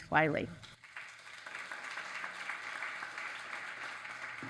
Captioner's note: audience applauds